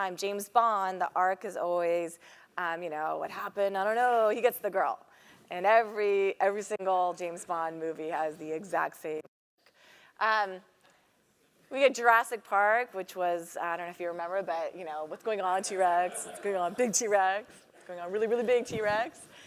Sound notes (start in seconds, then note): 15.7 laugh